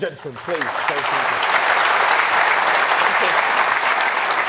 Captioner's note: audience applauds